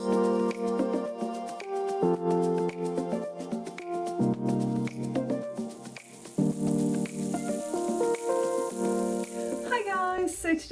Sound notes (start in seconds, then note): 0.1 chill music; 6.9 sizzling